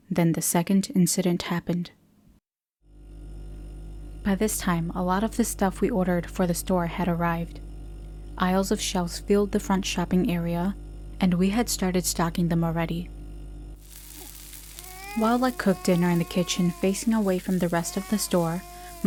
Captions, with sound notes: Then the second incident happened. By this time, a lot of the stuff we ordered for the store had arrived. Aisles of shelves filled the front shopping area, and we had started stocking them already. [Sizzle] [Baby whine] While I cooked dinner in the kitchen, facing away from the rest of the store,